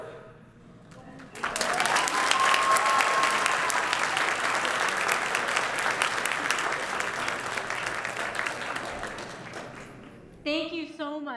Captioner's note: applause